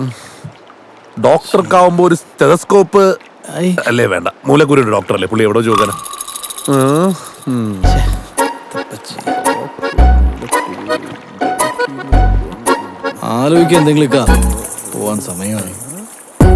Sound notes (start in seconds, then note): 9.7 speaking under his breath